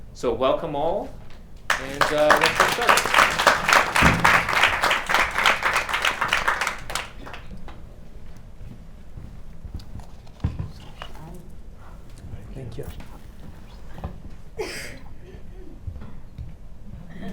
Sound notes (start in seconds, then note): 1.6 audience clapping